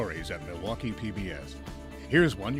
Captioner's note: voiceover